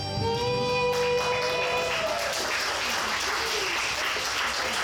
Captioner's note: audience applauds